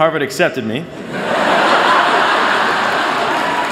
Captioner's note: laughter